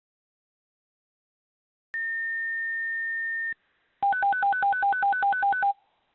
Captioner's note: dispatch tone